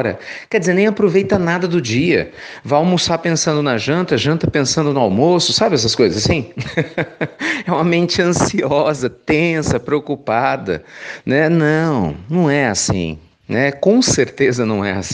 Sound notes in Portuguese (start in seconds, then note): 6.4 risos